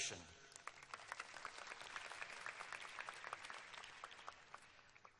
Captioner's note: applause